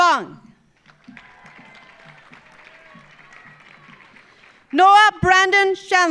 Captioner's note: audience applauding